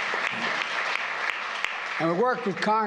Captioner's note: applause